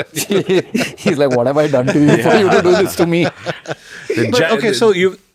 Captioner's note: laughs